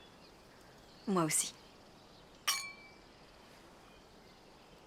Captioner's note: glasses clink